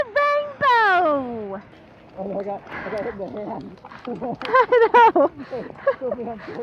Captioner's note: laughing